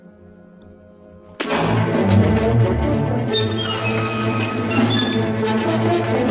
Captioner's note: dramatic orchestral music; thud